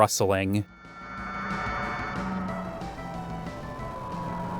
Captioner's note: distant wailing